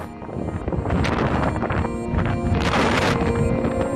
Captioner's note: wind blowing